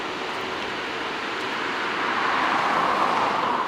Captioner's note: car whooshing